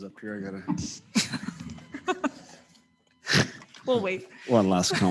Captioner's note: all laughing; lectern whirring